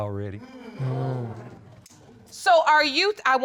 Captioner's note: audience exclaiming